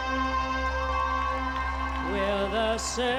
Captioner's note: cheering